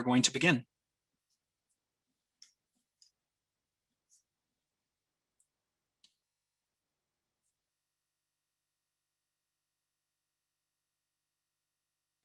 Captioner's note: silence